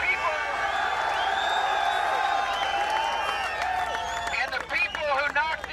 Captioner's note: cheering